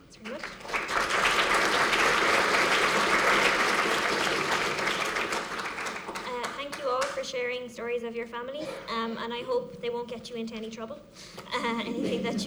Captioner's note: applause